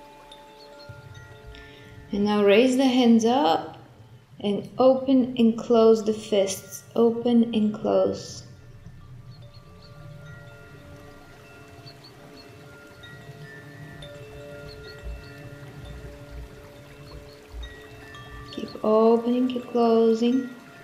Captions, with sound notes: And now raise the hands up and open and close the fists. Open and close. (chimes tinkling) (water running) Keep opening, keep closing.